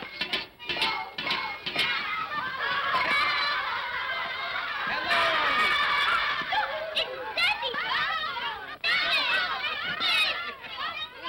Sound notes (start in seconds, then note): 2.5 children laughing; 5.4 children clamor; 9.4 children clamoring